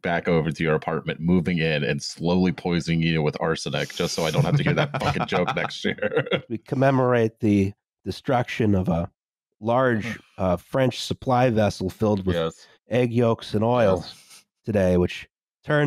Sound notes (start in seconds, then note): 3.7 chuckles; 9.8 sighs softly